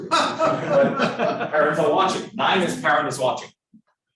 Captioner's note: students laughing